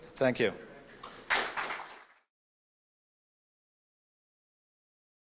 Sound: applause

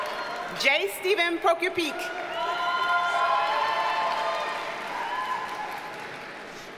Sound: audience cheers and applauds

